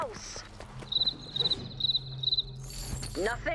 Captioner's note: crickets chirping